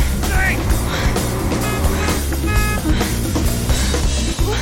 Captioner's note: horn honking